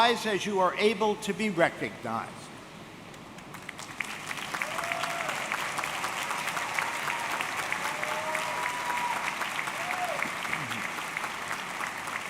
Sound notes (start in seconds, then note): 3.4 audience clapping; 4.4 audience cheering